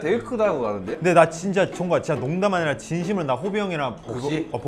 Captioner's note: frustrated